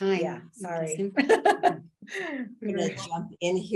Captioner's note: laughs